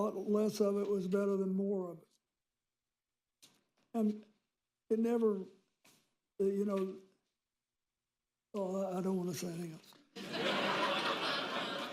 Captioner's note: laughter